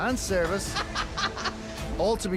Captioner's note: laughing